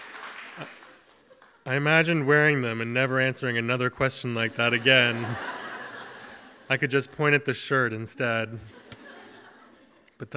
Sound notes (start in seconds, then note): 4.4 audience laughs; 8.6 audience chuckles